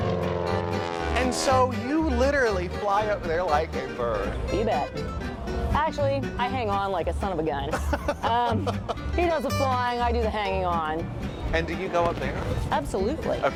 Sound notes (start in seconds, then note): 7.6 laughs